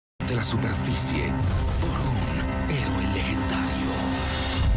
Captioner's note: speaking in Spanish